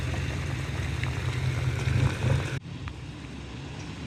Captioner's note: diesel engine running